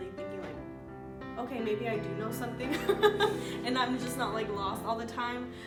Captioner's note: laughs